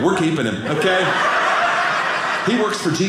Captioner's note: audience laughing